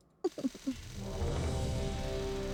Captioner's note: laughs